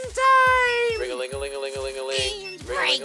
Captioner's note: watch alarm